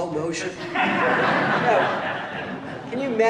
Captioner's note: laughter